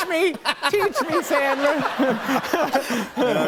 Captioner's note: laughter